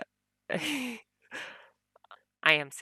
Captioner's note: laughs